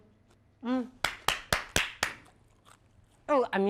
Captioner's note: claps